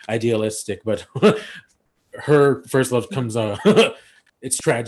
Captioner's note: laugh; laughs